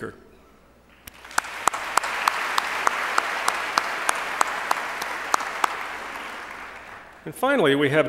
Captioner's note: applause